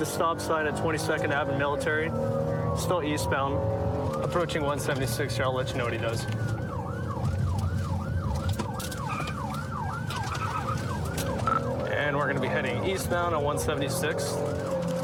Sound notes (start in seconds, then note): 6.9 siren wailing